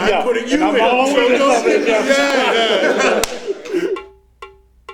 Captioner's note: group chattering and laughing; drum music